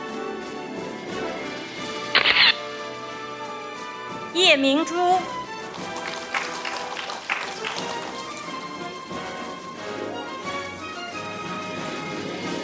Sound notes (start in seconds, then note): 2.2 camera shatters; 5.6 audience applauding; 9.5 orchestral music